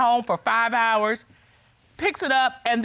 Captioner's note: none